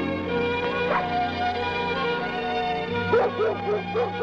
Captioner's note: dog barking